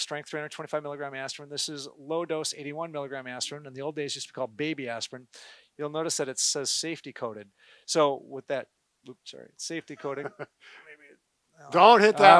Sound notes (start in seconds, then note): 10.0 gentle laughter